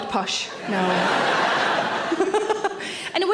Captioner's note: audience laugh; Sarah laughs